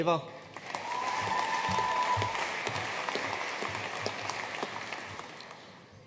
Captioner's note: audience cheering and applauding